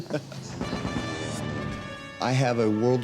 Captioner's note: laughing; gunfire, airplane passing